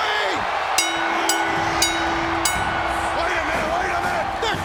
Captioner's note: crowd cheering; bell ringing